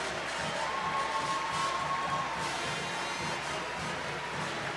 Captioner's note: audience cheering